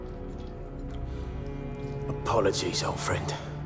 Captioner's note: bones crack